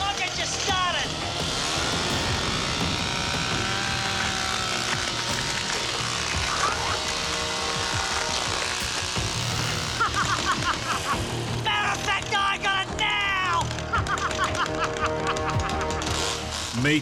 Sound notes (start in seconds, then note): 2.0 chainsaw running; 9.6 wild laughter; 13.7 wild laughter